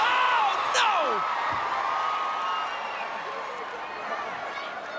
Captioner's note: crowd cheering